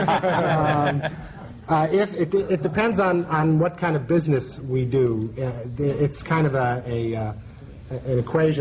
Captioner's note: laughter